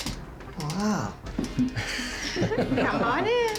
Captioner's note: laughs